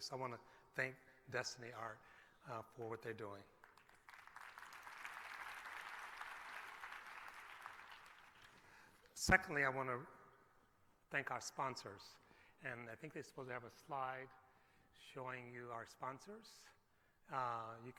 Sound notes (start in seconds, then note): 3.6 applause